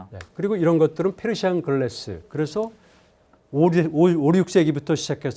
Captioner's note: speaking in Korean